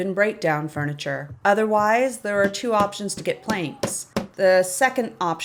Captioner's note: tap, tap, tap, tap, tap, tap